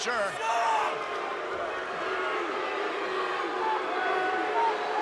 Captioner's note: crowd booing